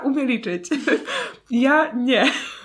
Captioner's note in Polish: śmiech